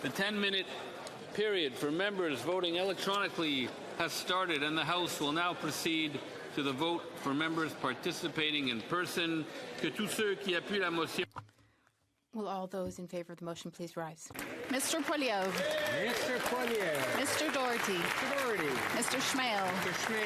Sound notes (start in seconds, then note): 13.6 speaking French